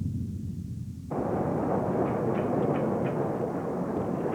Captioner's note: train going